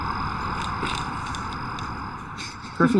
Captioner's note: feet land on ground